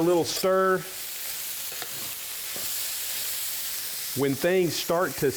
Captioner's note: sizzling